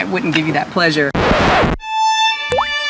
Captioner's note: record scratch; sad violin music